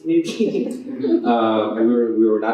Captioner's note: laughter